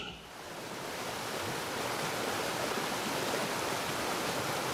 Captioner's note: water rushing